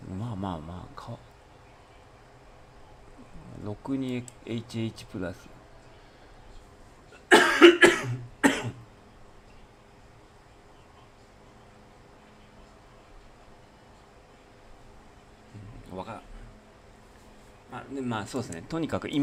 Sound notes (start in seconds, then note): 7.2 cough